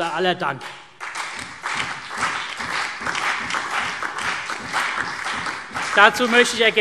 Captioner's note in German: Beifall CDU, BÜNDNIS 90/DIE GRÜNEN und DIE LINKE